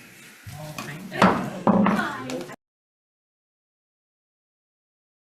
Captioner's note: gavel bangs